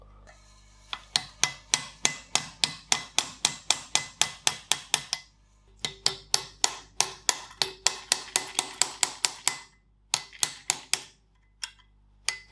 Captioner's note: working sound